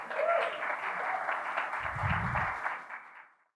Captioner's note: crowd cheers